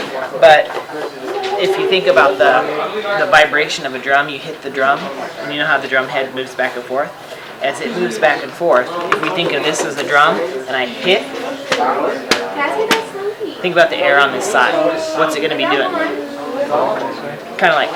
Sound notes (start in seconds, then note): 11.4 tapping